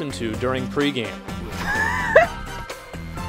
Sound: laughs

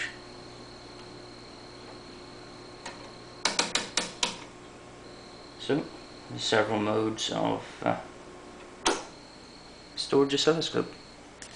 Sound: dial clicks

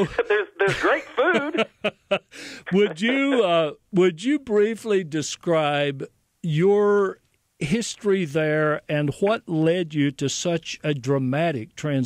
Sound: laughter

